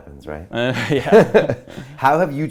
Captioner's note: laughing